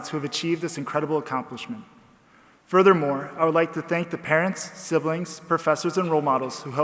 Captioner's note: none